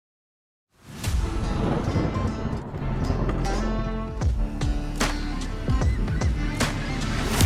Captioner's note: upbeat dramatic music; thunder booming